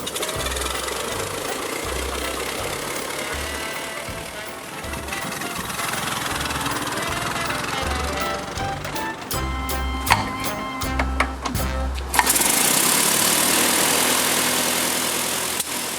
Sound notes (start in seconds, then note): 0.3 car engine revving and rumbling; 10.2 car engine revving; 10.2 lever clicking